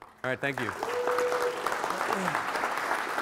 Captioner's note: applause